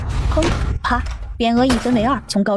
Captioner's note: boom!; crack!